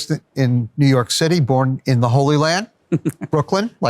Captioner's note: laughs